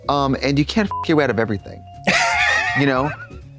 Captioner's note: beep